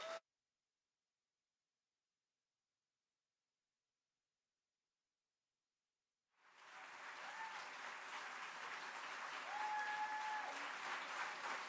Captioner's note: applause